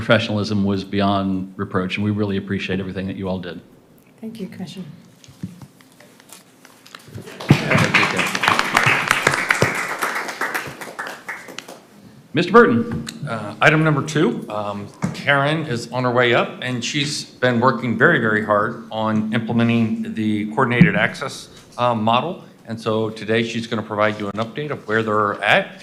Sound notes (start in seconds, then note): 10.5 applause